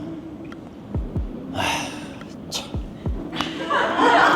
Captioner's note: sigh